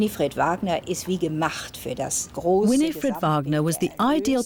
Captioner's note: speaking german